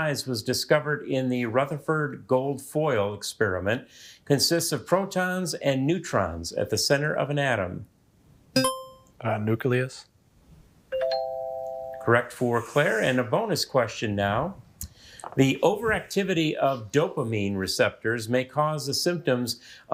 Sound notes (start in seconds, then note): 8.4 buzzer chimes; 11.0 musical note chimes